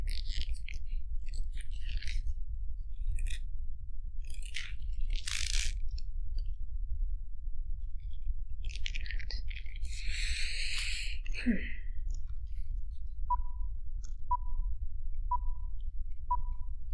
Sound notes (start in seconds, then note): 13.1 computer beeps